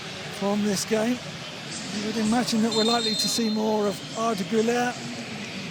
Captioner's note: whistle